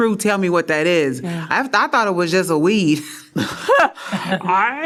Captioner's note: laughter